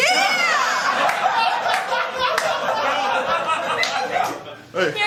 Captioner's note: laughter